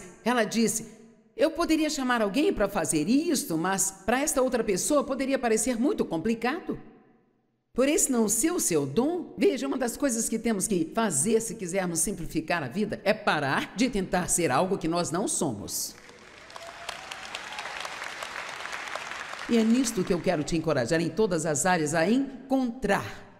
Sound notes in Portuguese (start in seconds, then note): 15.9 audiência aplaude